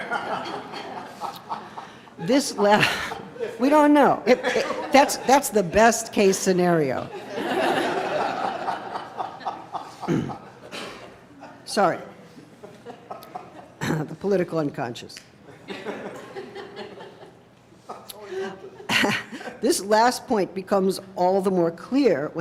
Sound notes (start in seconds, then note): 0.0 laughing; 7.1 laughing; 15.2 laughing